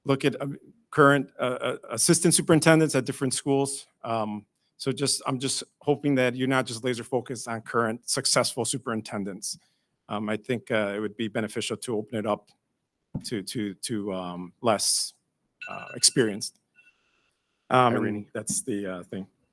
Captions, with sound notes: Look at current assistant superintendents at different schools. So, I'm just hoping that you're not just laser focused on current successful superintendents. I think it would be beneficial to open it up to less experienced. (alarm ringing) That's the thing.